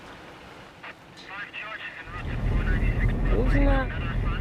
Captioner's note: police radio